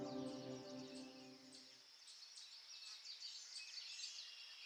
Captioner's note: birds singing